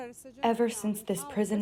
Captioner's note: through translator